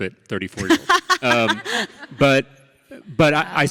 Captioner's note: Ilana laughs